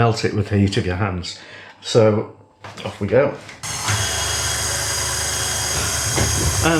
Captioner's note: machine whirring